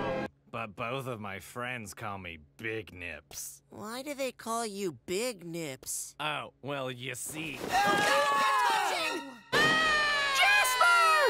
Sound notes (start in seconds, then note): 7.9 screaming; 9.5 Jasper screaming